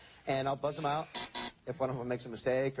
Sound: buzzer

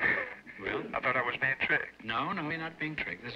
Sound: on phone

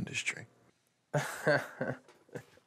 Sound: laughs

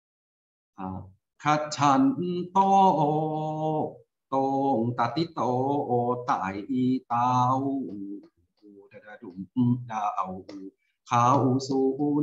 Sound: recites in Thai

